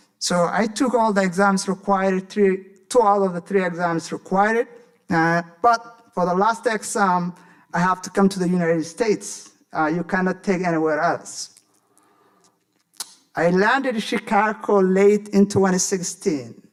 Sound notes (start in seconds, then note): 12.4 smacks lips